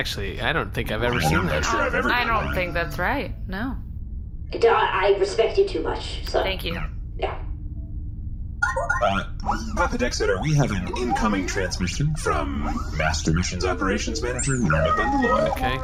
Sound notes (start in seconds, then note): 9.1 incoming transmission beeps